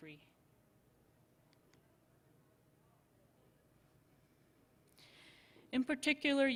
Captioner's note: silence